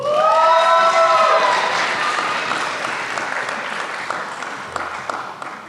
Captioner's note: applause